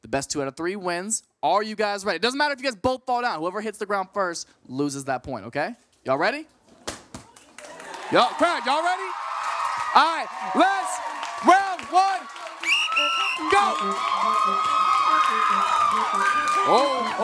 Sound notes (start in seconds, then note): 9.3 audience cheering; 12.6 blows whistle; 14.9 audience cheering